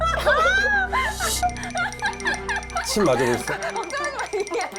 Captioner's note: trembling slightly